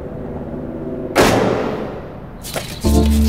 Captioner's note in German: Knall